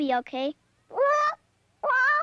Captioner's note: squawking